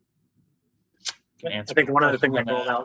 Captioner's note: group chattering